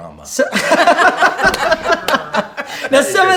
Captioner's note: laughing